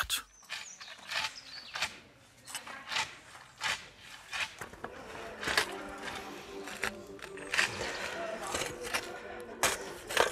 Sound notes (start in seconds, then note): 1.0 scratching clanking; 8.6 music in the background